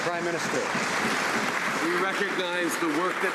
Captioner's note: some Applause